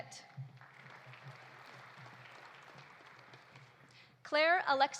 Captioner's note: audience applauding